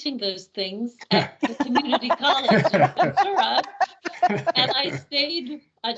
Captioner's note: laughing